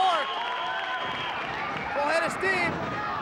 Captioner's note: whistle blowing